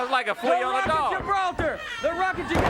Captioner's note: body thudding